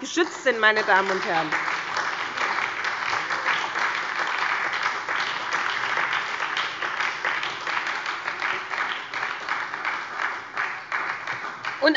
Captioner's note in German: Beifall bei der SPD